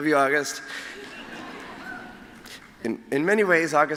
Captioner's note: laughter